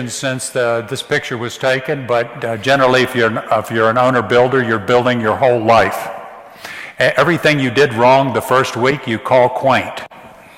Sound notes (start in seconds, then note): none